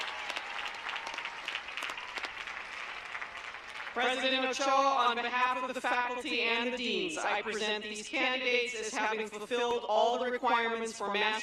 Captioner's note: applause